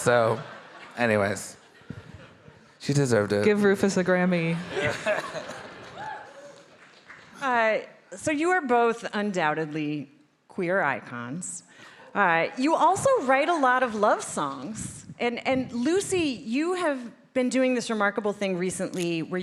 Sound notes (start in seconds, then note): 4.7 all laughing